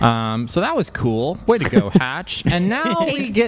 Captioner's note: laughter